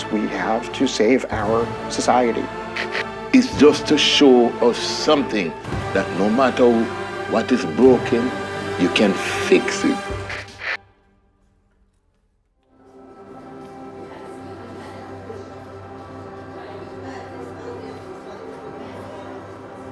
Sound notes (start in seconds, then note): 9.3 static; 12.9 orchestra tuning; 13.3 voices talking in classroom